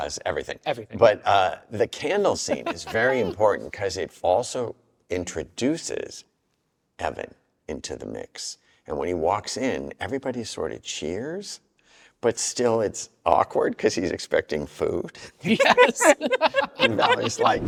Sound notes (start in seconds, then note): 15.5 all laugh